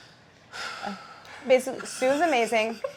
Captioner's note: sighs; laughing